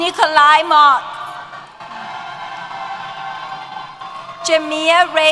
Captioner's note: cheers